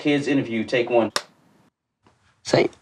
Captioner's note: clack board clacks